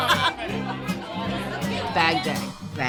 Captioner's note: women laughing